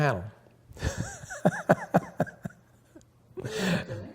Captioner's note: laughter